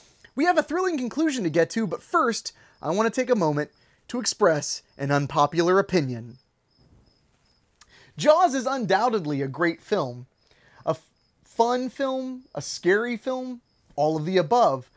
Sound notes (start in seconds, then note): none